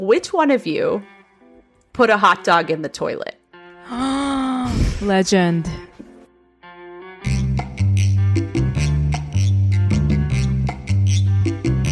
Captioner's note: gasps